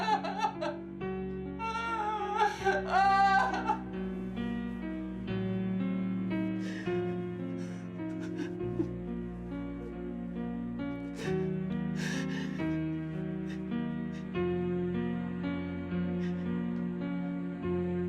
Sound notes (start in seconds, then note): 6.3 sullen music continues; 6.5 sobbing